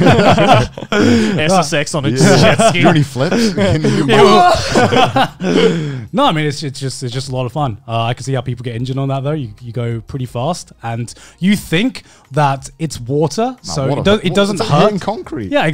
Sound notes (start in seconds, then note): 0.0 all laughing